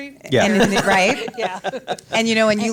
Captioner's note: all laugh